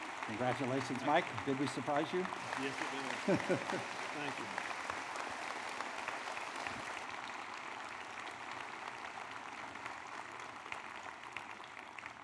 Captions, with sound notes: Congratulations Mike, did we surprise you? Yes, [Laughter], Thank you. [Applause]